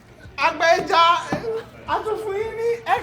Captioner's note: laughs